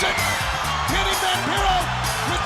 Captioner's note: bell ringing